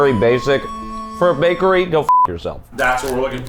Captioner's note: beep